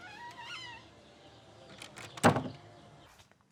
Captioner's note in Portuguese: rangido da porta